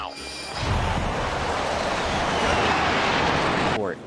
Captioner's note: engines roaring